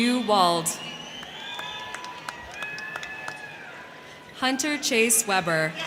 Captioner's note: crowd cheering; crowd clapping